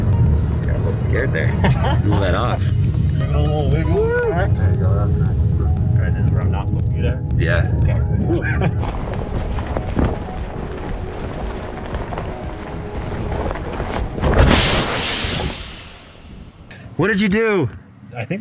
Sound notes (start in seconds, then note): 1.6 laughs; 14.5 tire deflates